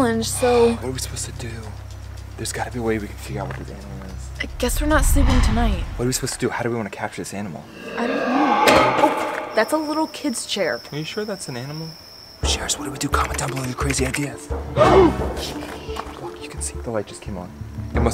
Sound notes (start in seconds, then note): 7.6 growling; 14.9 dramatic tune